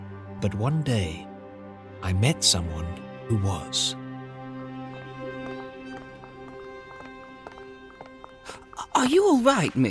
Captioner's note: sounds of brisk footsteps and huffing